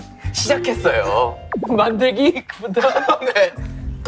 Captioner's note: unable to hold the laughter